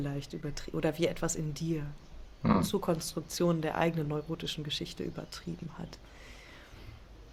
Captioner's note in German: räuspern